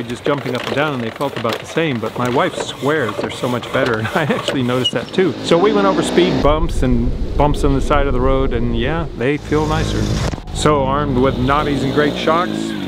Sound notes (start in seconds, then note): 6.4 engine roaring; 9.9 engine roaring